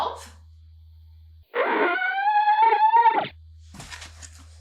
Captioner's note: grunts